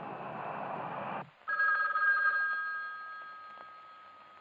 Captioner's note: phone ringing